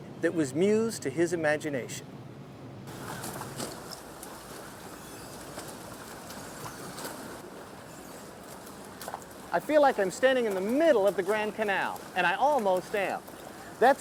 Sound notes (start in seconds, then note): 3.2 water splashes